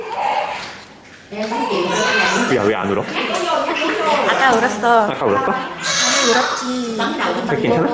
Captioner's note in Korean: 들리는 울음소리는 다른 아기 울음소리